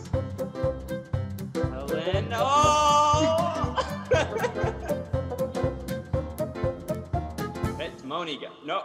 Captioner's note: หัวเราะคิกคัก